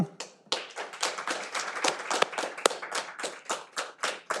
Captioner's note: all applauding